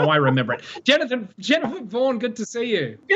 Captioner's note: chuckles